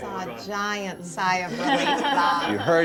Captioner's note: laughter